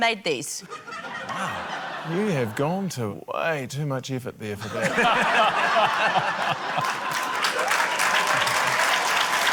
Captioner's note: laughter, applause